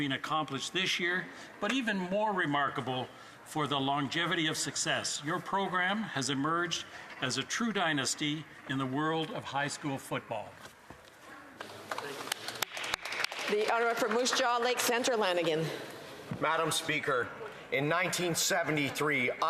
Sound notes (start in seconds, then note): 15.4 some Applause